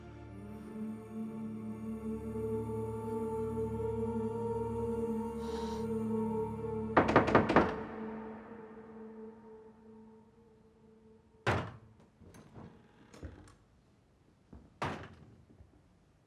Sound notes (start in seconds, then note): 0.1 musique douce; 7.0 on frappe doucement à la porte